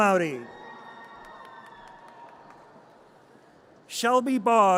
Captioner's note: audience cheers and applause